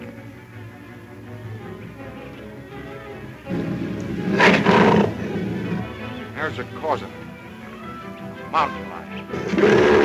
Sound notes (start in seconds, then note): 3.4 growling